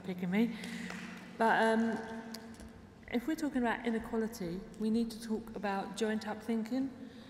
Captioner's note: applause